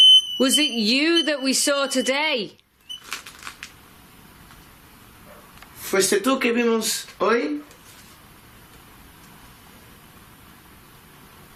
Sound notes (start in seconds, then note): 6.2 speaking in foreign language